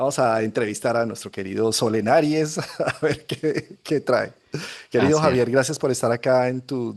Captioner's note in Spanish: risas